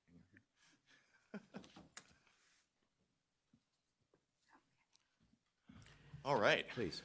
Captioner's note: chuckles